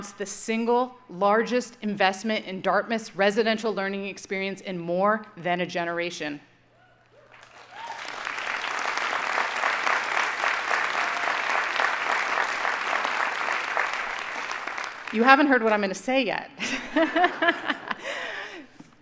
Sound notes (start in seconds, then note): 7.2 audience applauding